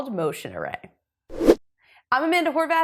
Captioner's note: logo whooshes